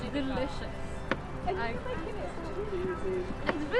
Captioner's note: incidental chatter